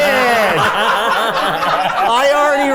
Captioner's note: everyone laughs